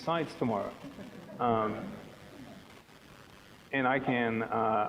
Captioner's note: audience laughing